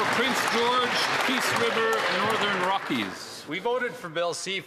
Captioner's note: applause